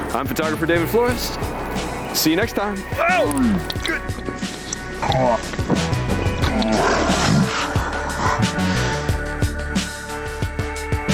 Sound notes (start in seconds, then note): 3.2 shouts loudly; 7.3 bright electronic music